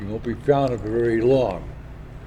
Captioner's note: none